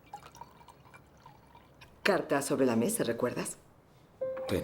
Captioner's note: wine pouring